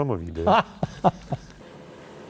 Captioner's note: laughter